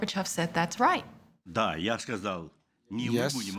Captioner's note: speaking Russian